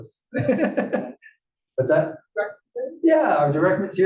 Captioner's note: laugh